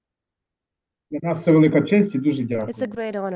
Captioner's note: non-english speech